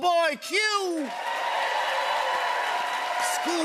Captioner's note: cheers and applause